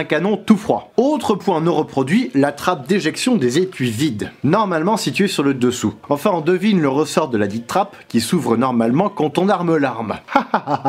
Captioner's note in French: Haha